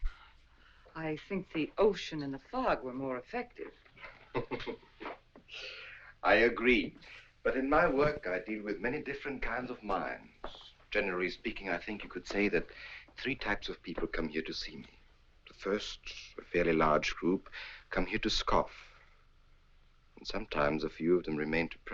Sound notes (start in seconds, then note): 3.9 Alexis chuckles